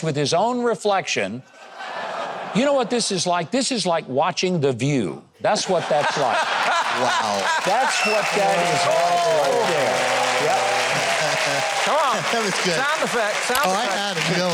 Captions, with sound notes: with his own reflection. You know what, this is like? This is like watching The View. That's what that's like. (person laughs) That's what that is like. (audience claps) - Yep. - Come on. - That was good. - Sound effect, sound effect.